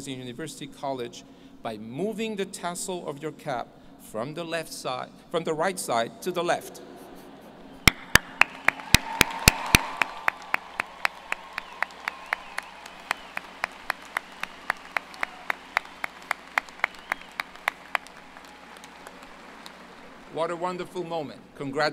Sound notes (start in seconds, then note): 8.5 applause